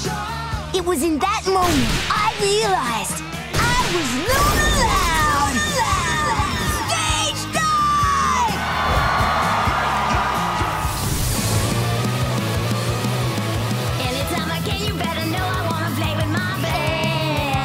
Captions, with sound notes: It was in that moment I realized... I was Luna Loud! [echoing] Stage dive! [cheering] Anytime I can You better know I wanna play with my Band!